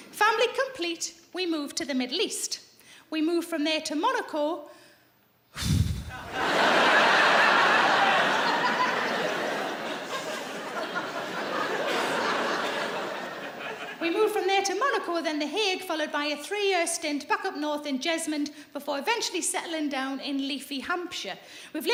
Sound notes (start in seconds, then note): 5.6 sighs; 5.8 audience laughs